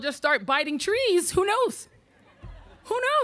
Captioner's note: audience laughing